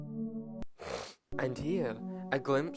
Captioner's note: snort